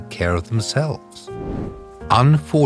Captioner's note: air whooshing